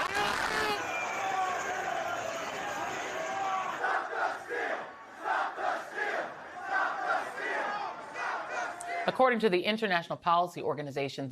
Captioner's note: chanting stop the steal